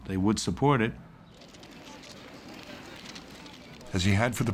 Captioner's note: camera shutters clicking